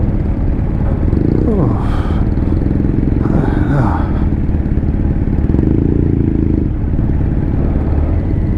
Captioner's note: dad huffing, at the heat, types of sounds